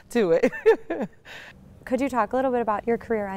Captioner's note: laughing